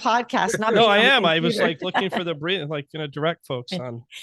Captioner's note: murmurs